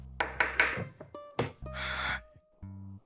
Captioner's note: sighs